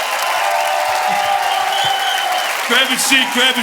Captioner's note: audience cheering and applauding